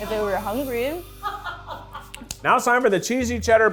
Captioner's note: cast laughs